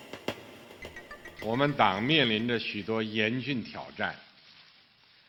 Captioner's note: speaks in Chinese